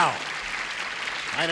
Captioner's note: applause